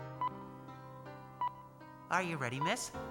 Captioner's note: machine beeps